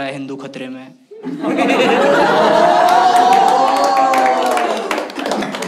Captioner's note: Hooting